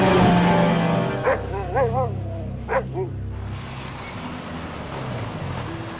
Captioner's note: Buck barking; peaceful music